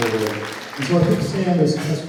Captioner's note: applauds